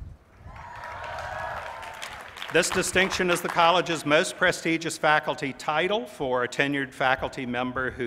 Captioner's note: applause